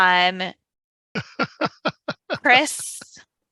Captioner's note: laughs